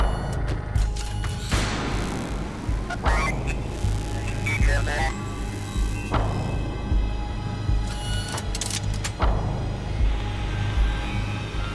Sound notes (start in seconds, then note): 2.0 interface beeping; 7.8 robot whirring mechanically